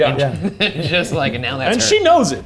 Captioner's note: chuckling; laughing